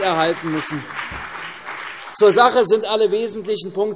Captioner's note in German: Beifall CDU und BÜNDNIS 90/DIE GRÜNEN